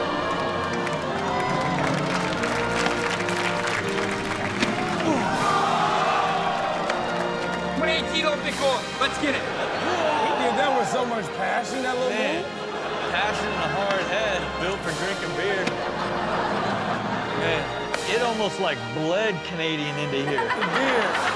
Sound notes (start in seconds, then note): 0.0 audience applauds; 5.5 audience gasps; 16.1 audience laughs